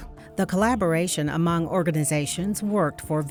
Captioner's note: voiceover